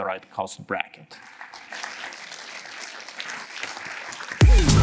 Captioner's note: applause